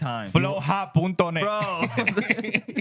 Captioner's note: speaking Foreign Language